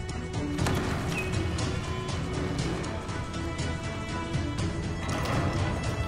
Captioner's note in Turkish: Kapı Sesi